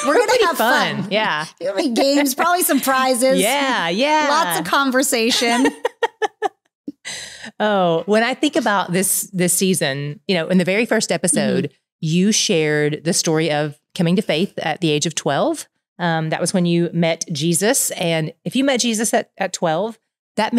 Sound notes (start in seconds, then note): 5.2 laughing